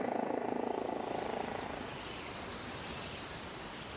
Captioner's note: birds chirping